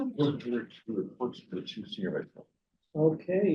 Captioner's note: speaks softly